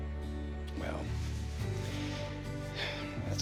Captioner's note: sighs